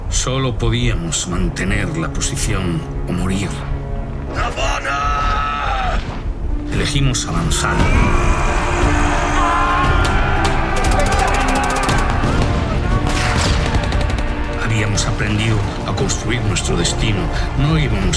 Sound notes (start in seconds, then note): 9.8 yelling; 10.2 gunfire